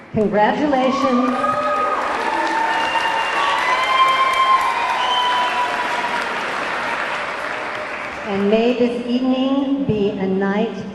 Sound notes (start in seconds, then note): 1.1 audience cheering; 1.2 audience clapping